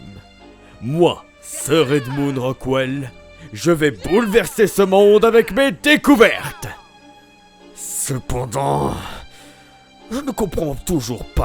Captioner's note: groaning